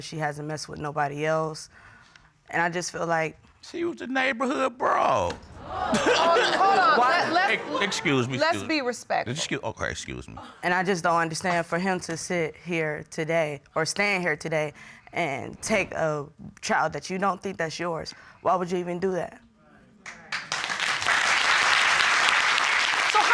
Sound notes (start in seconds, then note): 5.5 audience exclaims; 5.6 laughs; 20.1 audience applauding